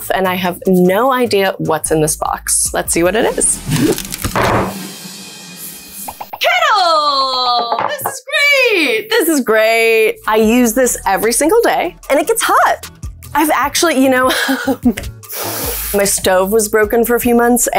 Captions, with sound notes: and I have no idea what's in this box. Let's see what it is. (drumroll music) Kettle! This is great, this is great! I use this every single day and it gets hot. I've actually, you know. (laughs) My stove was broken for a few months,